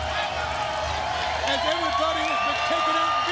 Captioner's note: crowd cheering